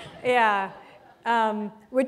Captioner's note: laughter